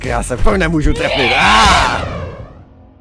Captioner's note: combined Scream